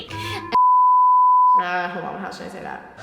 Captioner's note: beep